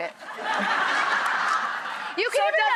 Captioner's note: audience laughing